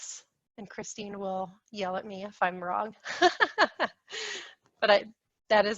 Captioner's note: laughs